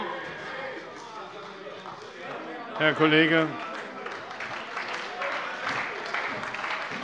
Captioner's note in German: Beifall bei der SPD und der LINKEN - Lebhafte Zurufe von der CDU